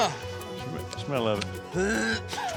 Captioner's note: dry heaving; laughing